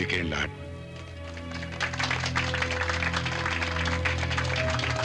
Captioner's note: applauding